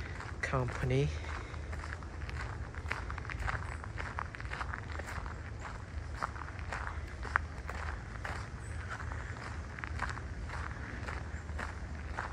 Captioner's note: walking on gravel